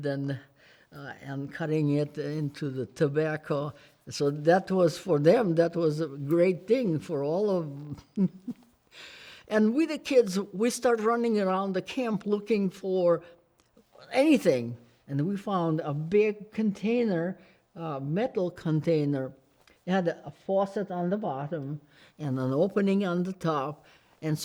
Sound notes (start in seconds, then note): 7.9 giggles